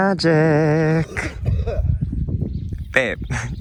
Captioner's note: coughing & hacking noises off screen